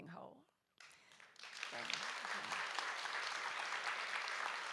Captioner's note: audience applauds